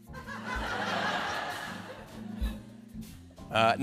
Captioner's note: laughter